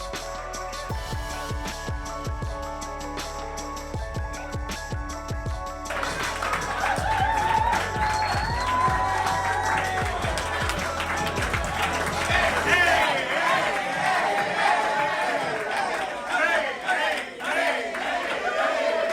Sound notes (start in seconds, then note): 5.8 graduates applauding